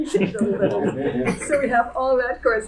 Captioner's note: audience laughing